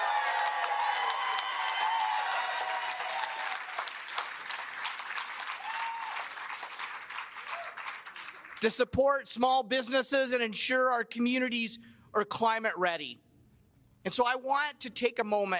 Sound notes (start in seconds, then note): 4.3 cheers and applause